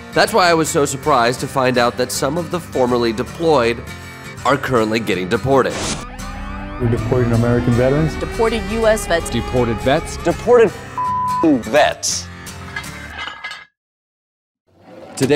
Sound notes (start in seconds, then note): 5.7 siren blaring; 13.0 metal clanking